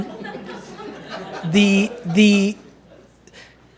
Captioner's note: laughter